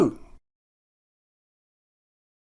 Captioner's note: silence